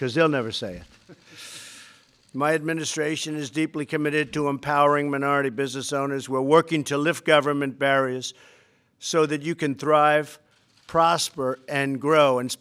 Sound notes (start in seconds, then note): 1.0 laughter